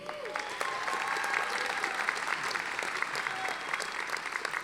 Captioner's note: audience applauding